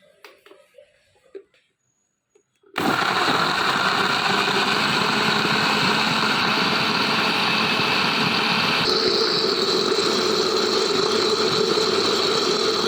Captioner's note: grinding